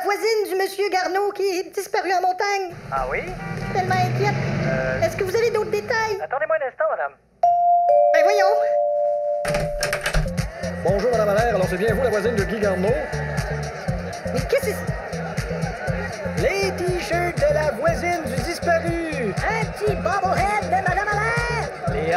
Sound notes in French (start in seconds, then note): 7.4 Sonnette; 9.9 Acclamations